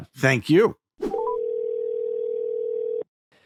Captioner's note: dial tone